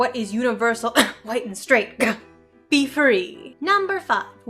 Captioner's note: cough